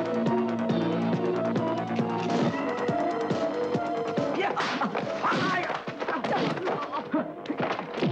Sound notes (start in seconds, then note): 4.4 man grunting